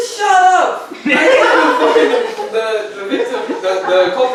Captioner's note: audience laughing